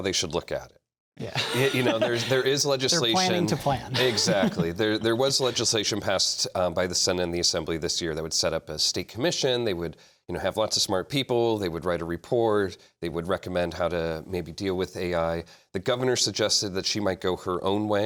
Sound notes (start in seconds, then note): 1.2 laughter